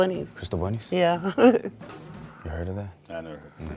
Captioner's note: chuckles